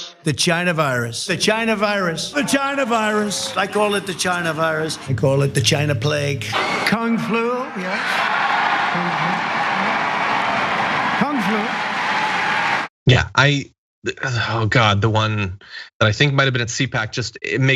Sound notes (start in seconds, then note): 7.8 applause